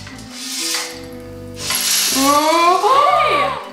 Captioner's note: popcorn sliding and clicking